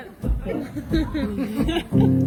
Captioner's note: laughter